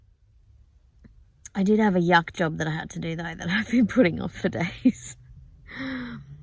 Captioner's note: laughing